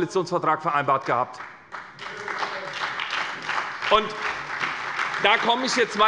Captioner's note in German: Beifall bei der SPD und der FDP